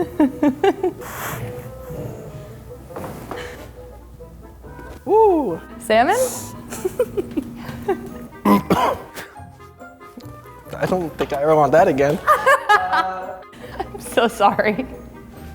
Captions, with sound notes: (laughs) - Whoo! - Salmon? (coughs) - I don't think I ever want that again. (laughs) - I'm so sorry.